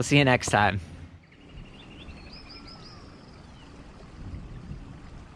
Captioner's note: birds chirping; water gently flowing